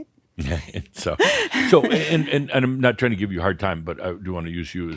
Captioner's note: chuckling